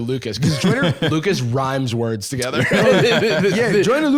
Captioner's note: laughs